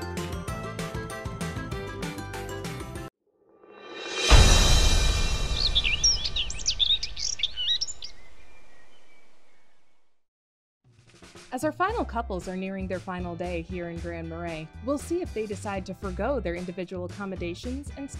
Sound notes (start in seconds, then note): 3.8 dramatic instrumental music; 5.4 birds chirping